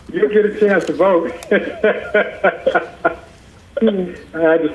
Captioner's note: laughing